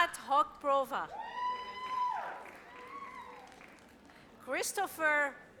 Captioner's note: audience cheers